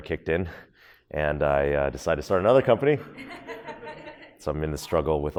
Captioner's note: audience laughs